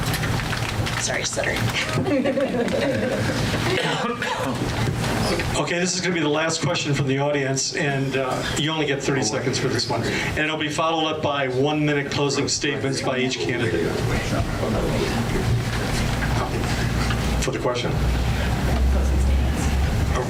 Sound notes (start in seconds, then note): 1.8 laughs